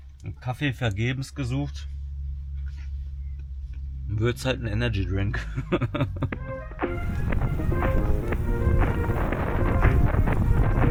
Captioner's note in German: gelächter